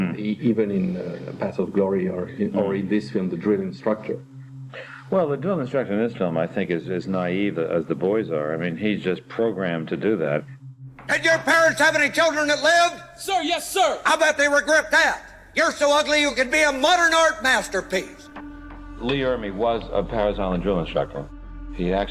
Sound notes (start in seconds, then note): 11.4 shouts